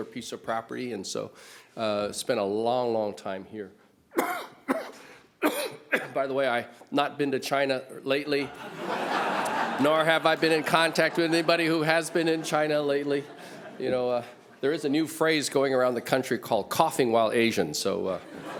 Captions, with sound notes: piece of property and so spent a long long time here. [coughs] By the way, I’ve not been to China lately [audience laughs] nor have I been in contact with anybody who has been in China lately. You know, there is a new phrase going around the country called, coughing while Asian, so, -